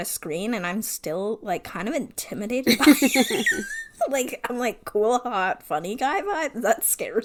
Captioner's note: wheeze laughs